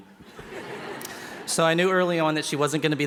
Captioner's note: laughing